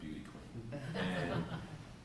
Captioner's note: laughter